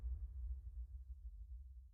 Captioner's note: none